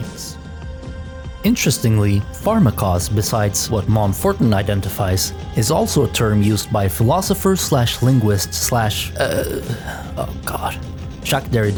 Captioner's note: groans pretentiously